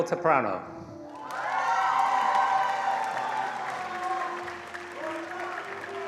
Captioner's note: attendees cheering and applauding